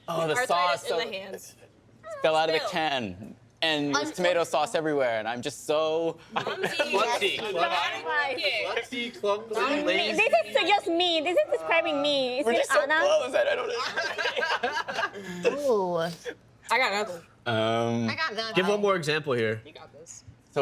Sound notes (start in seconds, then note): 8.1 others chattering; 13.4 guests laughing